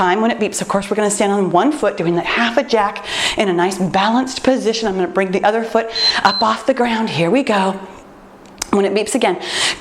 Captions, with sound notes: When it beeps, of course, we’re going to stand on one foot, doing that half a jack in a nice and balanced position. I’m going to bring the other foot [timer beeps] up off the ground. Here we go. When it beeps again,